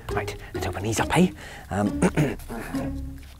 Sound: clears throat

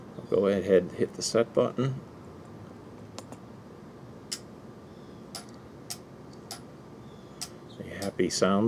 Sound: clicking

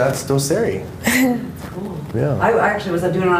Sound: laughter

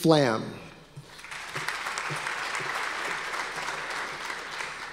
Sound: audience applause

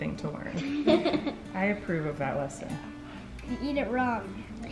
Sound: giggles

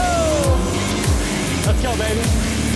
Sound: boat engines whirring

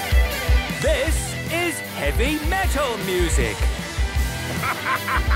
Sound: shouting

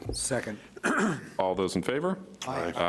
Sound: clears throat

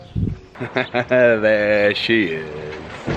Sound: laughing

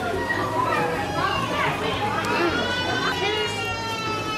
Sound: loud background chatter

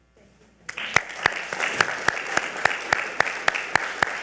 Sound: audience applaud

